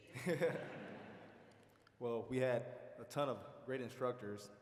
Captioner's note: laughing